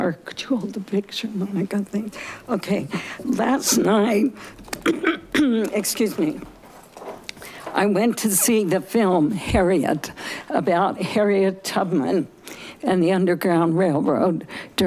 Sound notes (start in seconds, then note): 4.8 coughing